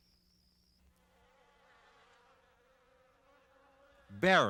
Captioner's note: bees buzzing